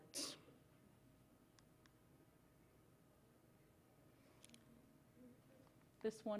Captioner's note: silence